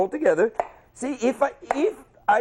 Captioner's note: chop